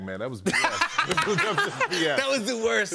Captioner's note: laughter